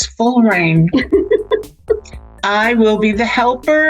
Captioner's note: laughs